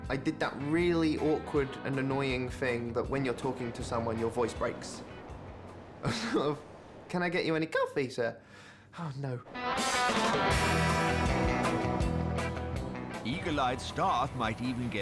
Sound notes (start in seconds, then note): 7.6 squeaks; 9.8 upbeat music resumes